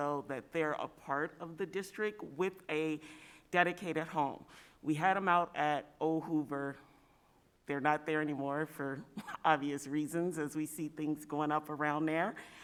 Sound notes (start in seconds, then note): 9.2 chuckle